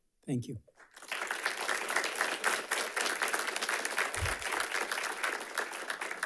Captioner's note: audience applauding